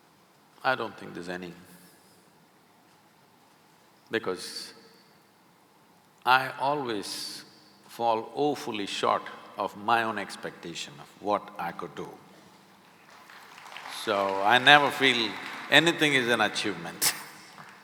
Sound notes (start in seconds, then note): 12.8 applause; 17.0 laughs